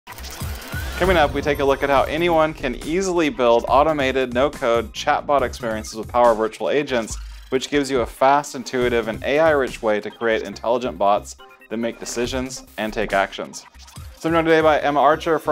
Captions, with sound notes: (upbeat music) (gears whirring) - Coming up, we take a look at how anyone can easily build automated, no code, chatbot experiences with power virtual agents, which gives you a fast, intuitive, and AI-rich way to create intelligent bots that make decisions and take actions. So, we're joined today by Emma Archer